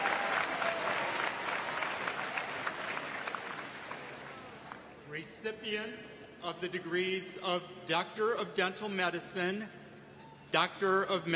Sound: applause

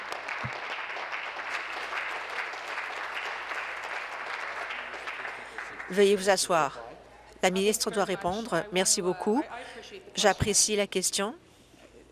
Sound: applause

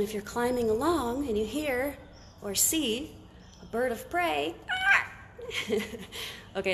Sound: squawks

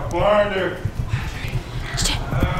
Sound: whispers

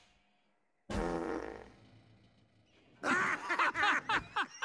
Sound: farting; laughing

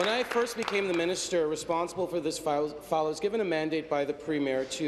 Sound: applause

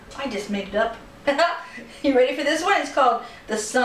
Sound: laughter

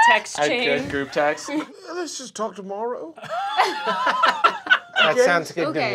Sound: laughter

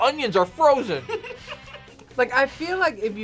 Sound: laughs

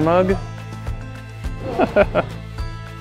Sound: laughs

